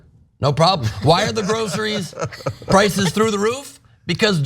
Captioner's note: laugh